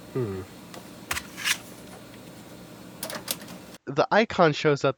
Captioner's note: floppy disk noises